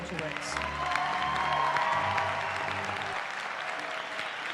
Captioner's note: cheering